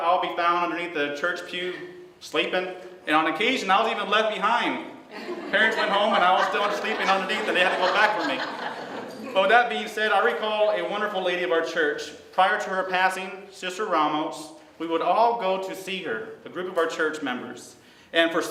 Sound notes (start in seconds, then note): 5.1 laughter